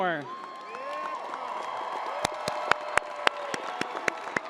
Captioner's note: crowd applauding